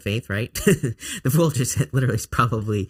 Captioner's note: chuckling